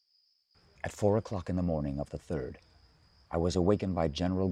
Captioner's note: voiceover